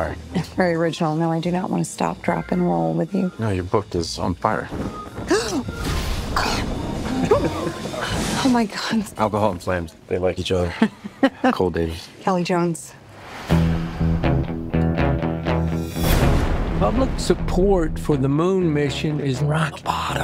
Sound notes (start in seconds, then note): 10.7 haha